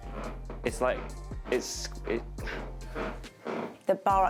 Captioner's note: stage creaks loudly